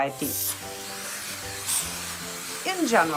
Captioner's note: vacuuming